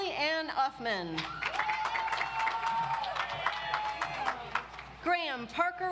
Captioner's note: audience applauds